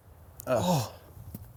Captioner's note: groans